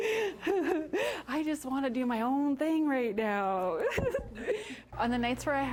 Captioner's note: laughing; laughing